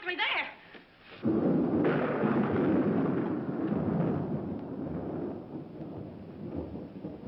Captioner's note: thunder